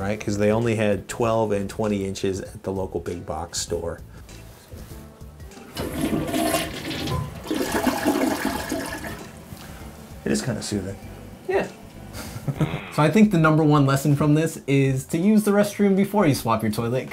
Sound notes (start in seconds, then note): 5.6 flushing